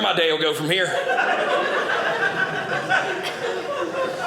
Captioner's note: audience laughing